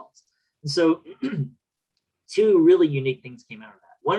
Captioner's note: clears throat